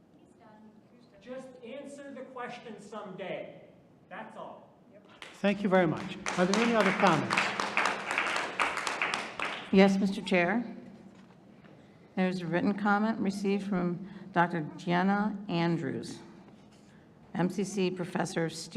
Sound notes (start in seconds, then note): 8.2 audience applauding